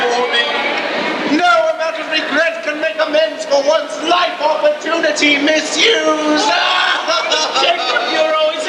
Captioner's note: wails pitifully